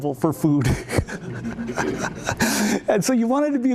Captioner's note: laughs